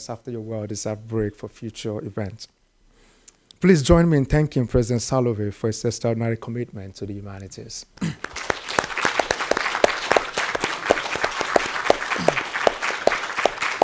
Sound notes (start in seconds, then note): 8.1 audience applauding